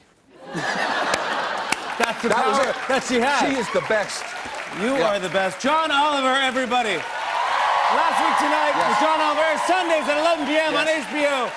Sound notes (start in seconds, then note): 0.3 laughter; 6.9 cheers and applause